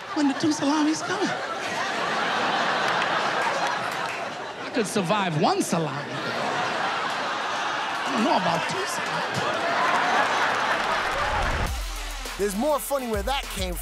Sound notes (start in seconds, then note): 2.5 laughter; 9.3 cheers and applause